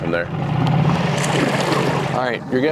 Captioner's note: water splashing